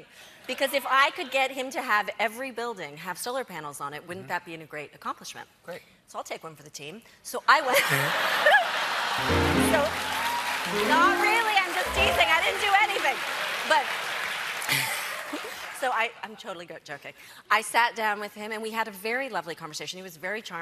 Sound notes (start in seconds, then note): 10.8 cheers and applause; 10.8 piano riff